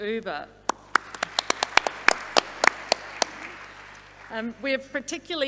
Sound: audience applauding

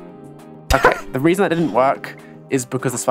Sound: laughter

